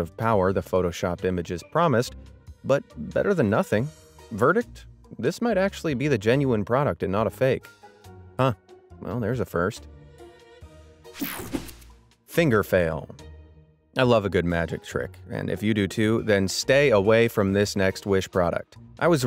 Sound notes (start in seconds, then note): 11.2 transition zapping